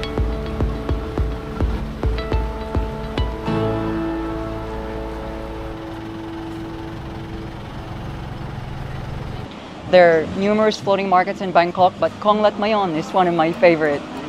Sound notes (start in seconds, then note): 0.0 sound of boat; 4.6 sound of boat